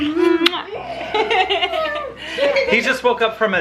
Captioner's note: laughs; kisses sounds